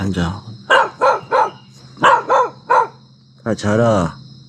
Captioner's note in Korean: 개 짖는 소리22